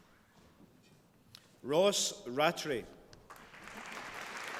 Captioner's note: applause